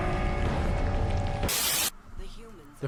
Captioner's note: Static